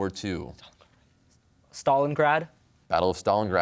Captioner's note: whispers